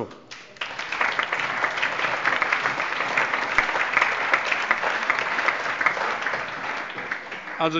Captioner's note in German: Allgemeiner Beifall